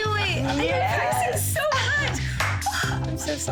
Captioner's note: laughing